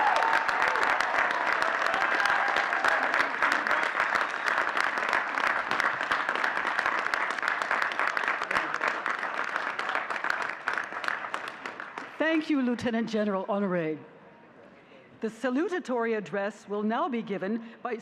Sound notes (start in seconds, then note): 7.1 all cheering and clapping